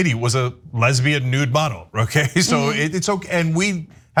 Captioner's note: laugh